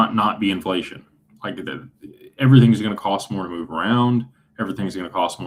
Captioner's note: clears throat